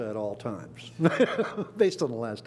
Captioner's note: laughs